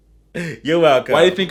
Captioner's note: laughs